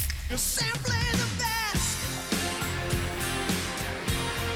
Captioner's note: click